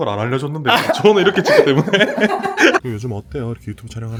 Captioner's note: laughs